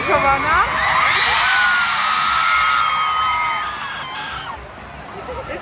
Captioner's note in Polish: głośne krzyki